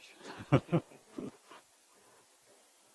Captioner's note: laughing